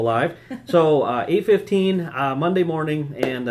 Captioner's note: laughing